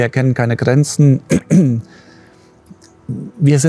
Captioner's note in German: Räuspern